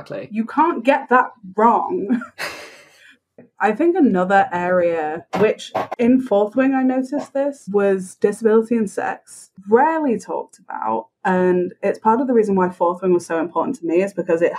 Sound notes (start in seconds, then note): 2.0 laughs